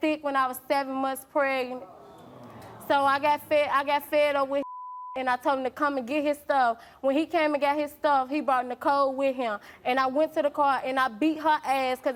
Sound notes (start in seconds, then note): 1.7 crowd groans; 4.6 beep